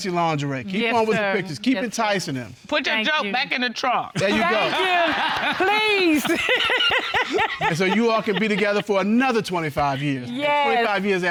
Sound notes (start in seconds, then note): 7.1 laughing